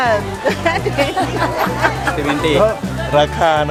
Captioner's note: giggling